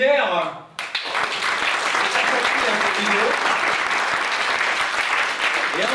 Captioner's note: applause